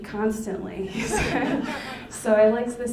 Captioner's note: laughing